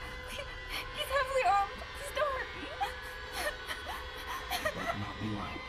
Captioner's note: sobbing